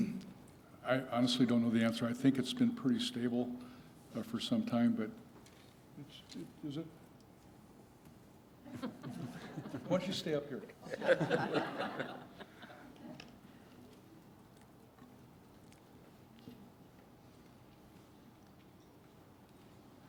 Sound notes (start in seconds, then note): 10.8 laughter